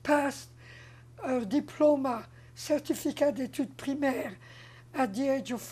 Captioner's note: french